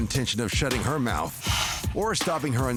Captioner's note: blows nose